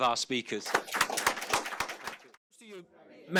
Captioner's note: audience applauds